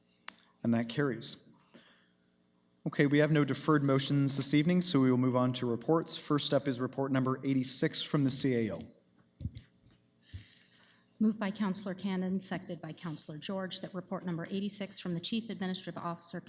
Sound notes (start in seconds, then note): none